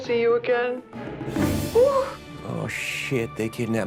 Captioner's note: air whooshing